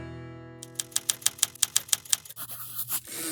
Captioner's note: typewriter sounds; typewriter dings